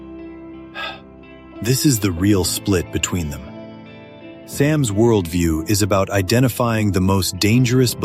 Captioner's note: exhales